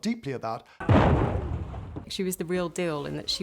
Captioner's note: explosion booms